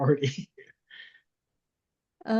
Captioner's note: laughs